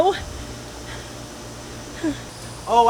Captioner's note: small chuckle